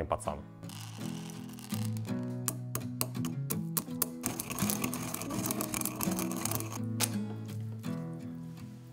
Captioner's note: crackle of pepper